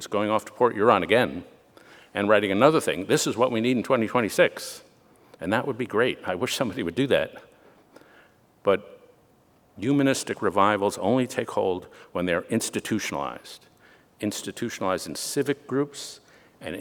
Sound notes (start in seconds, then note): none